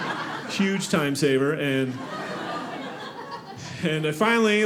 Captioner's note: audience laughing